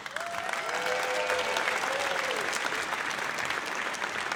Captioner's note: audience cheers